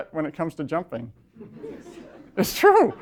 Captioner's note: laughter